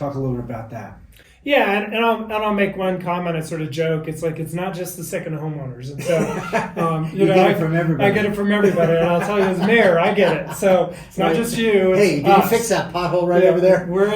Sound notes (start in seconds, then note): 6.3 laughing